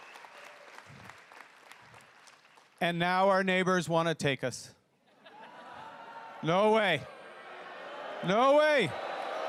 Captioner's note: cheering and applause